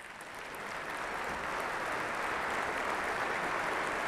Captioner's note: applause